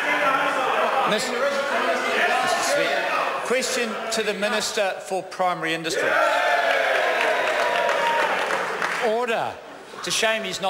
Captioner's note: members cheer